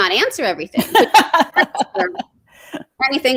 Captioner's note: laughs